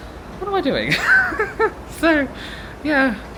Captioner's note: laughing